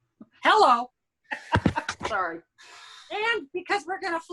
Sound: laughs

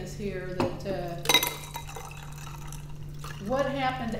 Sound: water pouring

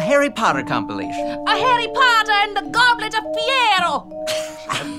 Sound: Italian accent

